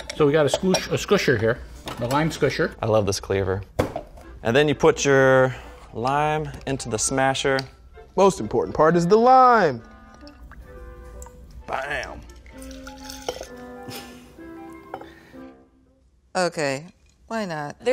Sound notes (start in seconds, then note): 9.0 lime juice trickling; 10.1 quirky orchestral music; 12.6 lime juice trickling; 12.6 quirky orchestral music; 13.9 man chuckles